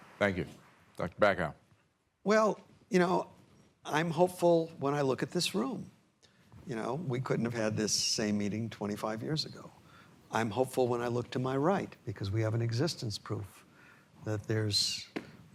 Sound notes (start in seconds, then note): none